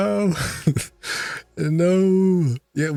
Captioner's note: laughs